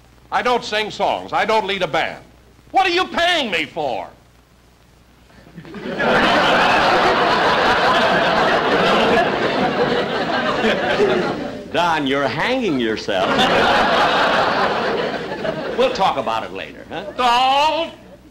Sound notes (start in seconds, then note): 5.4 audience Laughing; 13.2 audience Chuckling